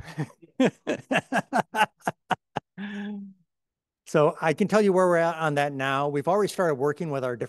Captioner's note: laughs